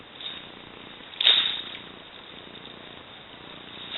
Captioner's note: waves lapping